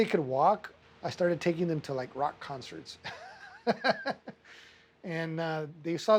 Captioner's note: laughing